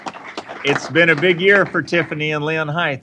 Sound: applause

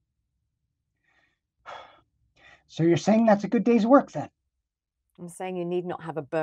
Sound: sighs

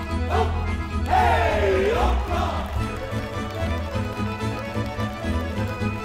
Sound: audience applauding

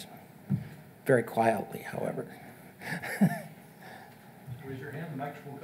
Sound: chuckles

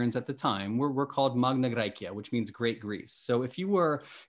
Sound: speaking greek

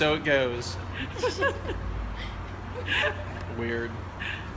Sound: laughter

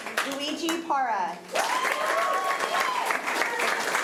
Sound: applause

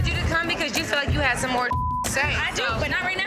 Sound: beep

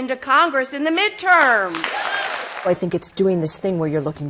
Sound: applause

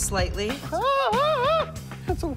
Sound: screaming

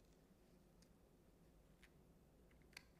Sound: none

